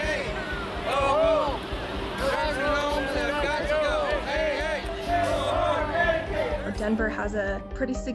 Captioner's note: audio from protest